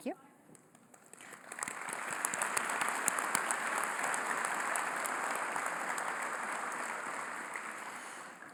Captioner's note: applause